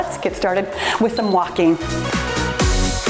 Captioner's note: timer beeps; cheerful music